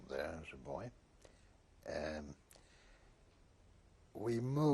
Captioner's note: pauses for 3 seconds